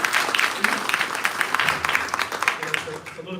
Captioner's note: applause